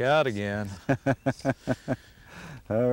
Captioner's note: laughter